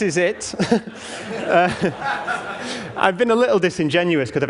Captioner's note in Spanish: Risas